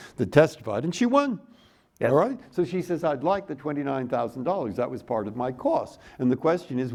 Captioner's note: none